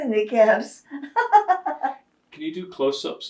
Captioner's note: laughing